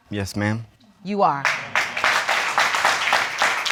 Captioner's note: audience applauding